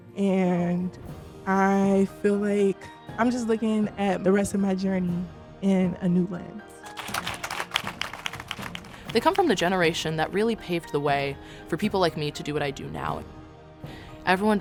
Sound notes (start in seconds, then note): 6.8 audience applauding